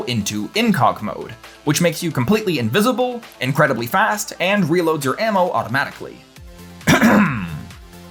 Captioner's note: ahem